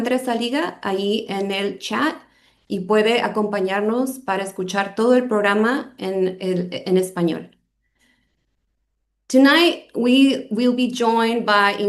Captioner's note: speaking spanish